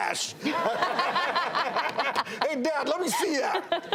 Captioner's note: all laugh